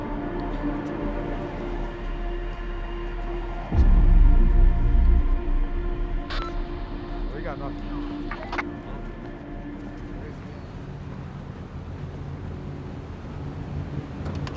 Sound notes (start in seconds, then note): 3.0 dramatic music continues; 8.3 walkie talkie crackles